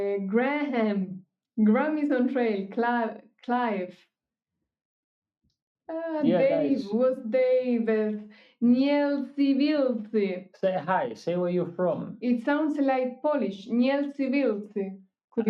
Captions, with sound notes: Graham, Grammys on Trail, Clive. Yeah, guys. Dave was there. (speaking foreign language) Say hi, say where you're from. It sounds like Polish. (speaking foreign language)